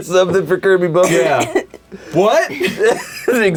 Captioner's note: coughs; laughs